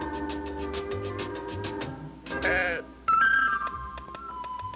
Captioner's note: sheep bleating